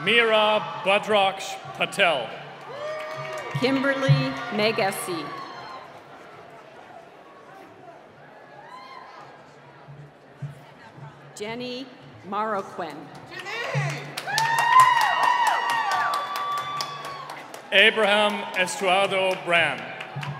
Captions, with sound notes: - Myra Budrux Patel. - Kimberly Meigassi. Jenny Mauroquin. (cheering and applause) - Abraham Estrardo Brand.